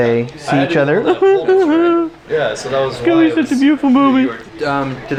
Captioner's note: crying